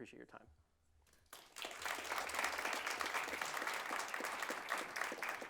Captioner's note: audience applauds